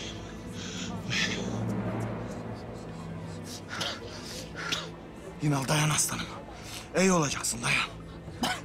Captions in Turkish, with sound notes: (Yınal nefes sesi) Yınal, dayan aslanım. İyi olacaksın, dayan.